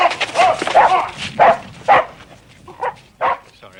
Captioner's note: exclaiming; monty continues barking